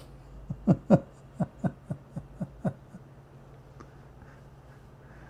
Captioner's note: Ketawa